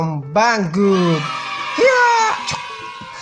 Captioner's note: imitating sounds